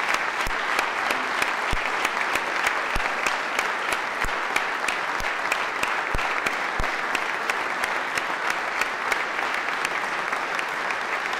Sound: applause

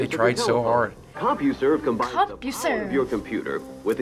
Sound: voice-over

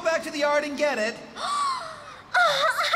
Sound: gasps

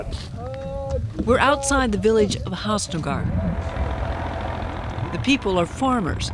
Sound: tractor rumbling

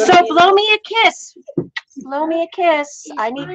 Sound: kissing

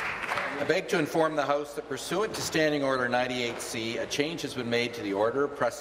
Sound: applause

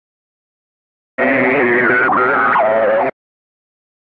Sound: sound of radio communication

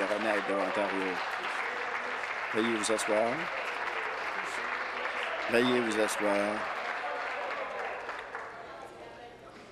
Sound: applause

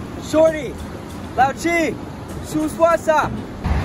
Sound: speaking Chinese

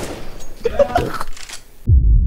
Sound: laugh

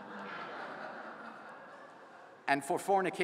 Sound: laughter

